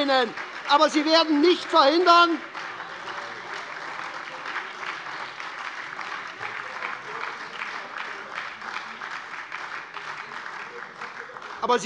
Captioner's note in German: Lebhafter Beifall bei der SPD - Fortgesetzte Zurufe von der CDU